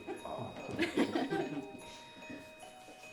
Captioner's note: laughing